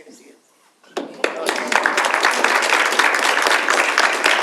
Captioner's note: audience applauds